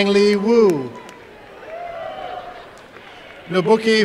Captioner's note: applause and cheering